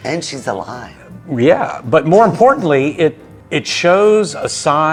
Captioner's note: chuckling